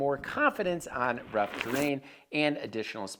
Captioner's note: dirt scraping